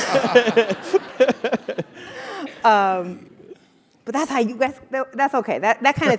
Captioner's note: laugh